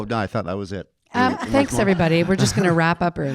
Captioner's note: audience laughing